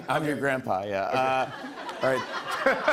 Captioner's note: laughs